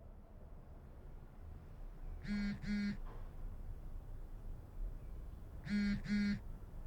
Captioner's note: cell phone vibrating